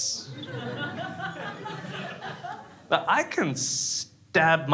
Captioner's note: crowd laughs